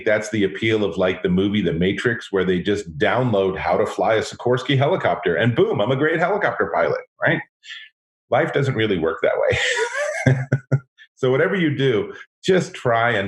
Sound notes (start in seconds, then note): 9.4 laughs